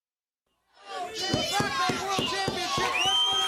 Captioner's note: crowd chatter